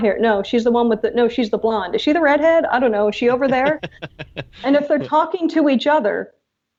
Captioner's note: laughs